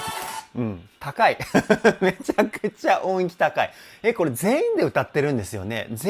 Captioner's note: laughs